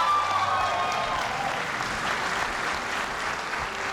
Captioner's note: cheers and applause